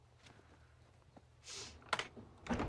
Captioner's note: sniffles